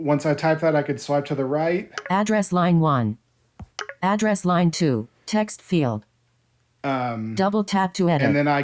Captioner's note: click